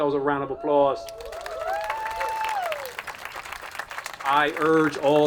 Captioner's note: attendees applauding and cheering